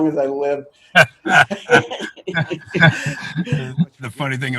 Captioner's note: both laugh